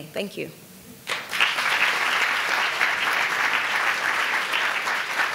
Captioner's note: audience applauding